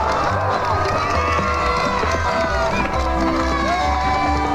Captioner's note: bull hooves clopping; crowd cheering